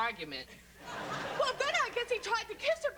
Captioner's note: laughter